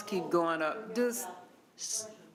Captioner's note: speaking quietly